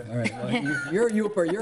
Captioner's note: crowd laughs